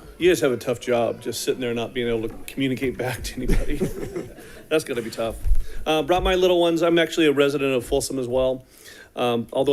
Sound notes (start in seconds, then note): 3.0 attendees chuckling